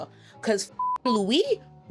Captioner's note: beep